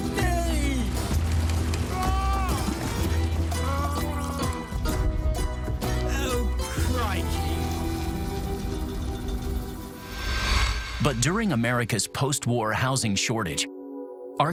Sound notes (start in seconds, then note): 3.5 gurgling